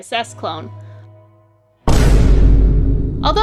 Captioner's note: bang!